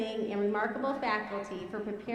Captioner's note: none